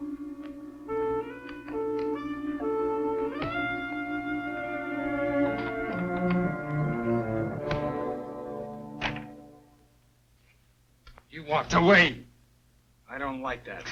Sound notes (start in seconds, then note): 1.0 soft music; 3.3 door opening; 6.2 metal clanking; 7.4 dramatic music; 8.9 door closes